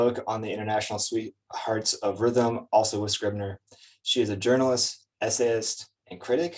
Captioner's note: none